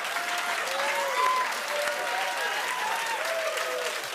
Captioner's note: cheering